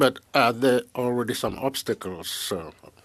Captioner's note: speaking French